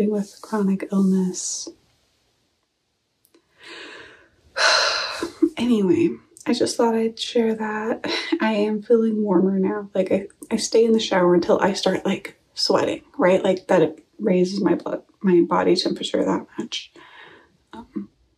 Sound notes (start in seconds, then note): 3.6 sigh